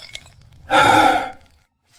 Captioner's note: sigh